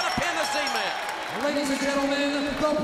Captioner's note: bell ringing